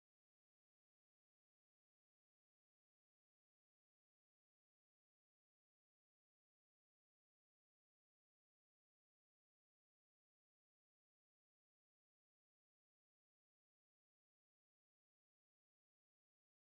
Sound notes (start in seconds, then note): none